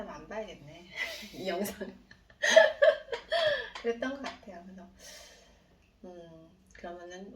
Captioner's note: laughing